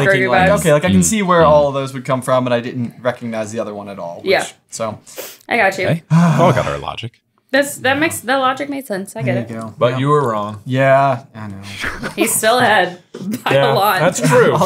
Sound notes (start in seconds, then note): 6.0 sighing